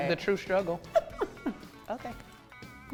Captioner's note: laughs